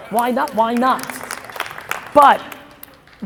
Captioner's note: audience clapping